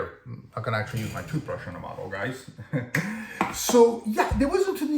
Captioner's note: laugh